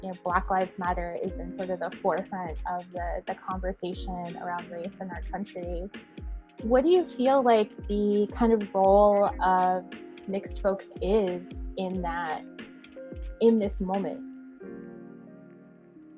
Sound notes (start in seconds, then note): none